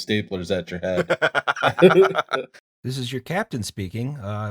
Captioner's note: laughter; minnesota voice